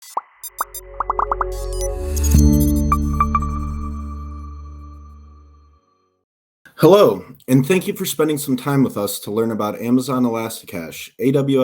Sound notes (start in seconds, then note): 0.0 graphics popping; 0.1 graphics beeping; 1.0 logo chiming; 2.2 bright music